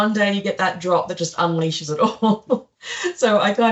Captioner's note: laughs